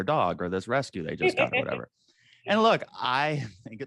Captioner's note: AJ laughs